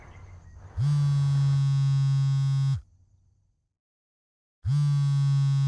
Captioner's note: cell phone vibrating and ringing